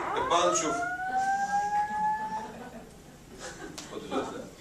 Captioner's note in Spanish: risas